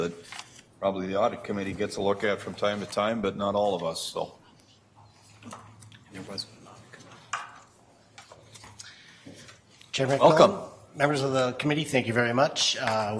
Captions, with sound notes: that probably the audit committee gets to look at from time to time, but not all of us. (quiet chattering) - Chairman McMillan, members of the Committee, thank you very much.